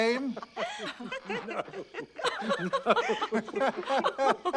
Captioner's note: laughter